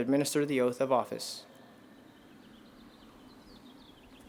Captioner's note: plane engines roar